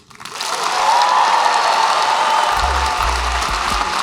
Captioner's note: applause